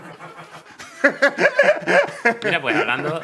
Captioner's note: laughs; laughter